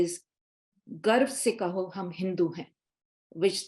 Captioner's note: speaking Hindi